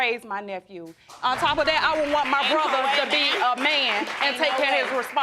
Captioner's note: audience applauds